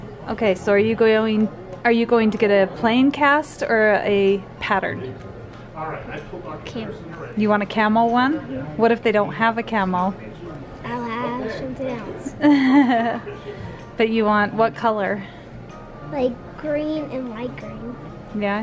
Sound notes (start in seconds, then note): 12.3 laughing